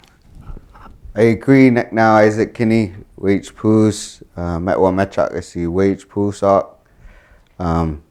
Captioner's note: speaking his language